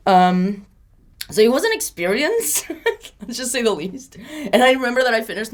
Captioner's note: laughs